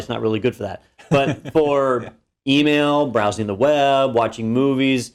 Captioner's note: laugh